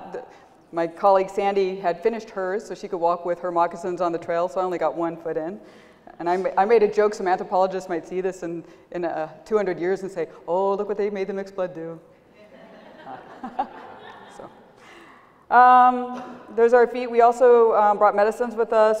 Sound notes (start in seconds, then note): 13.9 laughter